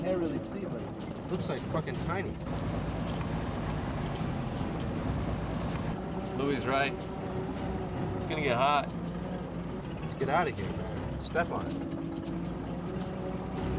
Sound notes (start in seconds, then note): none